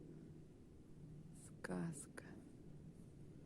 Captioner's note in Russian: шумит небольшой ветерок